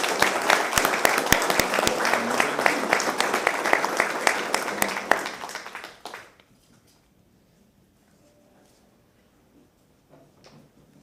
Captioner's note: applause